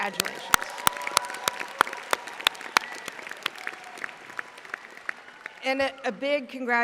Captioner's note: audience applauding